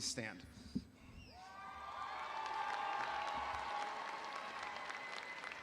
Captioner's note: audience applauding